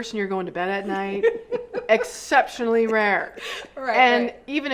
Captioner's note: laughs